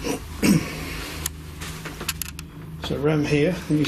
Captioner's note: clears throat